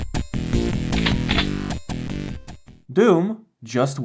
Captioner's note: shotgun load